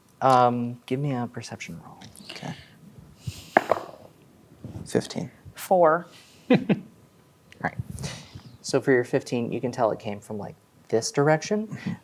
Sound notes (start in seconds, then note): 3.6 dice rolling; 6.5 chuckles